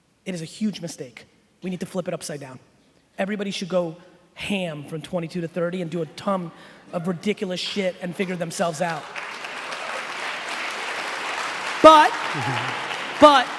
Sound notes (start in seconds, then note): 10.5 applauding